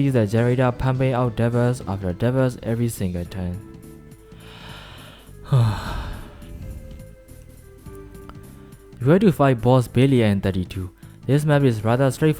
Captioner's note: sigh